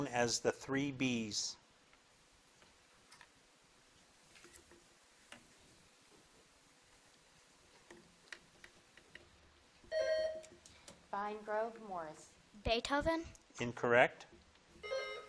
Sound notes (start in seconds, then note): 9.9 buzzer dings